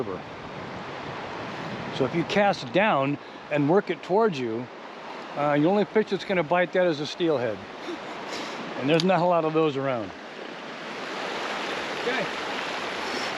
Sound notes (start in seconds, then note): 7.8 chuckling; 10.6 water flowing